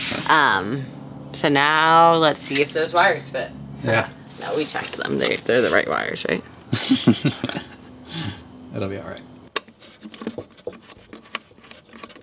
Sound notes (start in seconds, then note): 6.7 chuckles